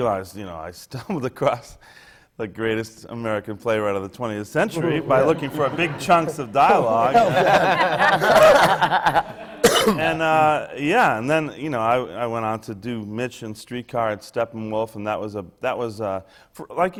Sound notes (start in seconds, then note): 0.7 laughs; 4.6 laughter